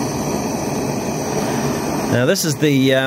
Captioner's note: gas roar